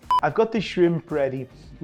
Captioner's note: beep sound